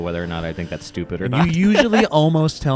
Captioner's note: laughs